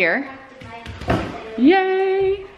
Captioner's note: hitting cardboard